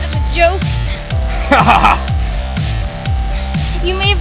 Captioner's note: laughs